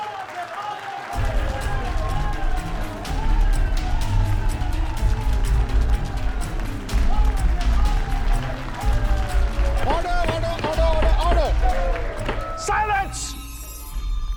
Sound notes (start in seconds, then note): 11.1 laughs